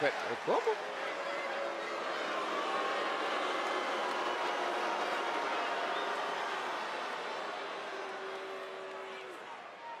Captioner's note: applause